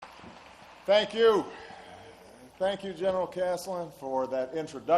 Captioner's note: applause